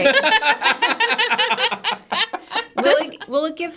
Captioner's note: participants laughing